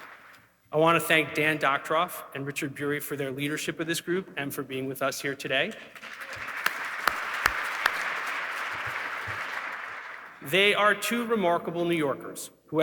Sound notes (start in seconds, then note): 5.9 audience clapping